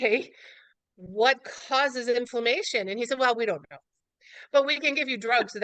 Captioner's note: laughs